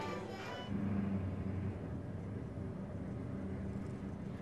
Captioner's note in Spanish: motor rugiendo